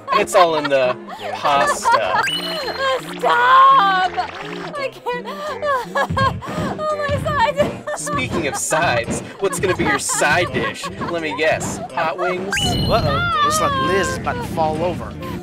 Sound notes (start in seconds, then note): 0.0 raucous laughter; 5.4 laughs; 6.9 laughs more; 8.2 dying of laughter